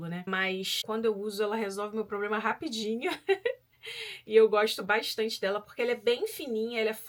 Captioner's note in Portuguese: risadas